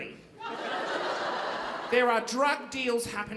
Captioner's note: audience laughing